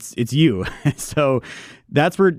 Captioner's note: laughs